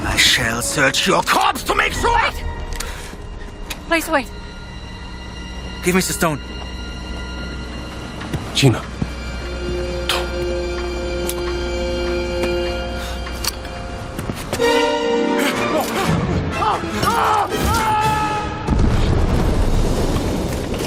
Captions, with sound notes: I shall search your corpse to make sure! Wait! Please wait. Give me the Stone. [Indy whispering] Gina! Don't! [yelling] [explosion]